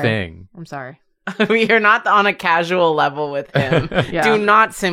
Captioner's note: laughs